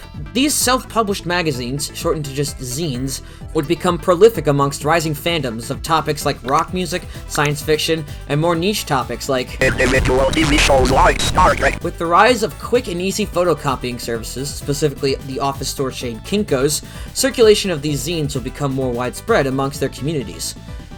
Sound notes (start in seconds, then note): 9.5 in a robotic text-to-speech voice